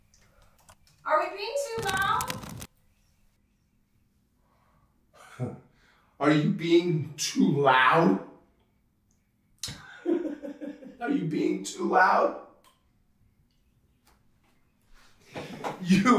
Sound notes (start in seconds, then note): 5.2 Thomas chuckles; 9.7 Thomas laughs